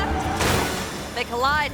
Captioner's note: bikes crashing